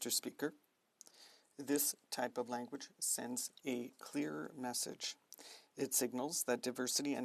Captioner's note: speaking French